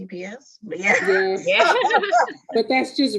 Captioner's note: laughing